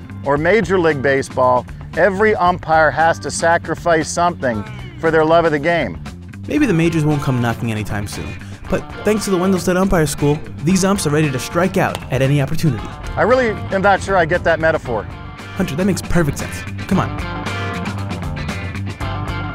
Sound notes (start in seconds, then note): 6.5 voiceover; 15.3 voiceover